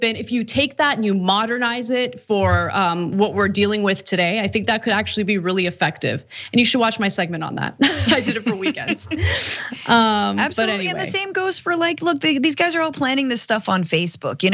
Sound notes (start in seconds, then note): 7.8 laugh